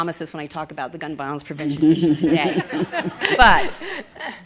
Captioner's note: laughter